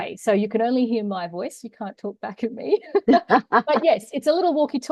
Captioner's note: both laugh